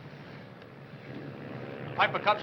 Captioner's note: plane whirring